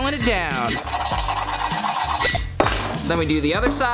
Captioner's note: file scraping